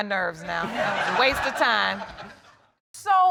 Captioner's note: audience laughing